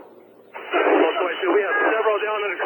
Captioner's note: people yelling